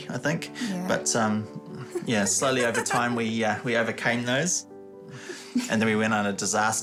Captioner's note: chuckles